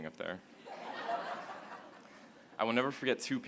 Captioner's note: laughter